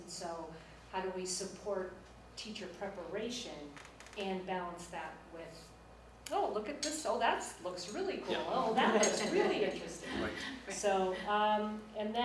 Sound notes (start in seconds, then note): 8.4 laughs